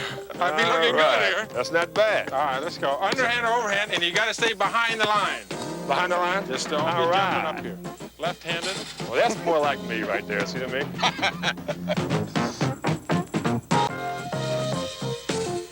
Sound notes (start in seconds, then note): 10.7 Seaver laughs; 12.7 mid-tempo music